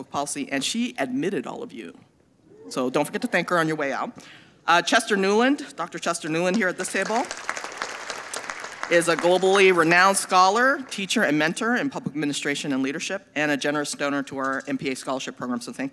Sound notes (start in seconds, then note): 6.6 audience applauding